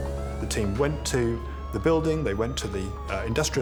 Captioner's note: police sirens wailing